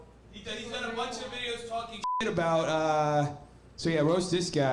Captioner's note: beep